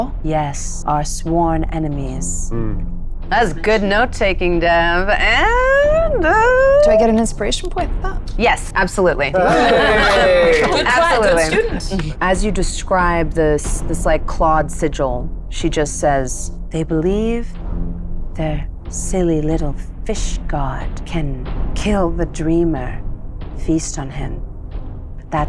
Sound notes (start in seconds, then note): 9.3 laughs